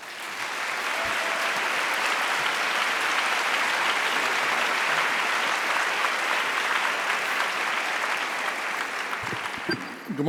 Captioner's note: applause